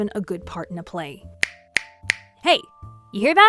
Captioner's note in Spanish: chasquido